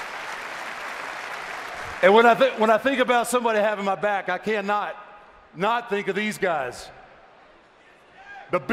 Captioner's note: cheers and applause